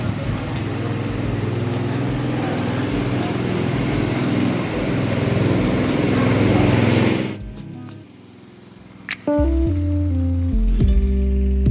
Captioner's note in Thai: เสียงเรือดัง มากๆๆ